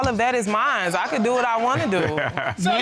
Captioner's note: laughs